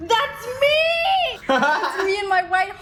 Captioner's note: Ryan laughing